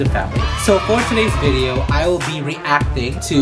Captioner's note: kids cheer